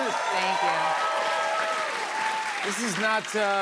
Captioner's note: cheers and applause